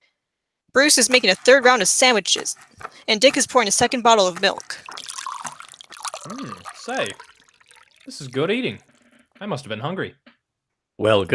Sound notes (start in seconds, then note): 6.2 mouth full